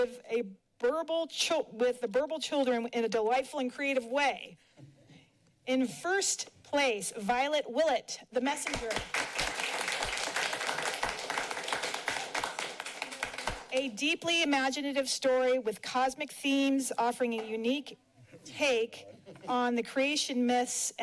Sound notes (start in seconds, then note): 8.6 applauding